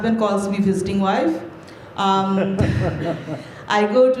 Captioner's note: laughter